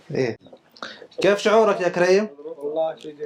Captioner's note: Arabic